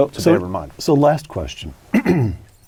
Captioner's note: cough